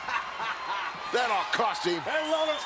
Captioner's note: laughs